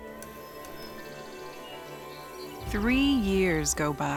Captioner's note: birds twittering